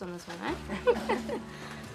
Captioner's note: chuckling